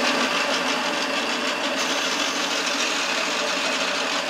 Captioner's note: steady turning noise